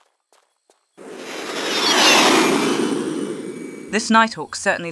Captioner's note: Noise from Pratt & Whitney F119-PW-100 engines